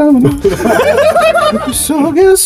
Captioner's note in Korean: 일동 폭소